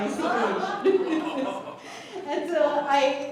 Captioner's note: laughter